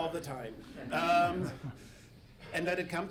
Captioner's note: audience laughing